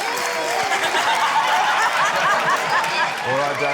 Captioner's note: laughter